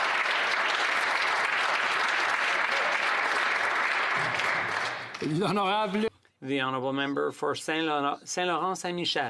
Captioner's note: some Applause